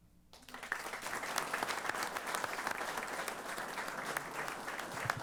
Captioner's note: applause